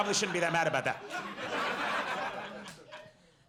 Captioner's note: audience laughs